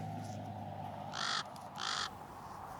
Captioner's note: raven Noise